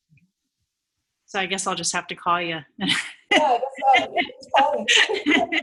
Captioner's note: laughing